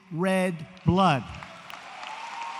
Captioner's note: applause